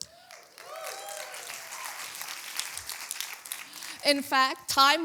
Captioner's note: applause